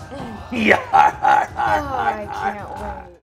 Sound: laughs heartily

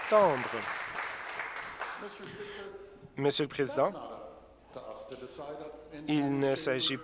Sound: applause

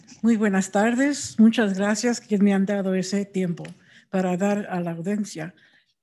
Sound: speaking in a foreign language

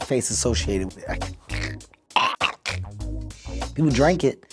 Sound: choking noises

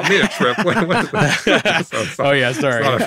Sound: hosts laughing

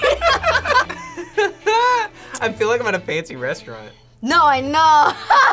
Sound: group laughs; laughs; laughs

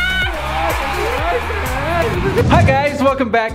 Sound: crowd cheering

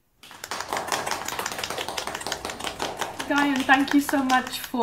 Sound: participants clapping

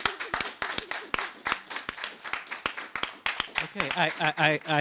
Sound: audience applauds

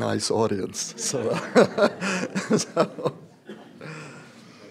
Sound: laughs

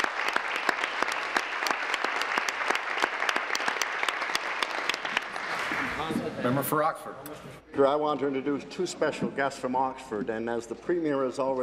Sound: applause

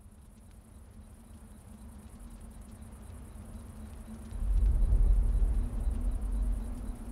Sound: desert sounds, crickets, ominous rumble

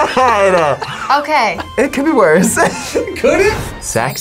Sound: both laugh; laughs

